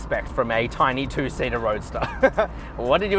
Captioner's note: laughs